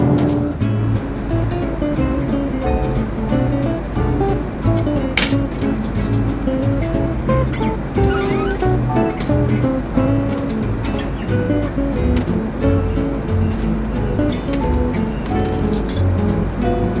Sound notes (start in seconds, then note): 0.3 upbeat happy music; 5.4 plastic rustling; 8.0 plastic squeaking